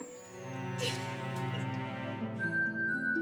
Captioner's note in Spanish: Risas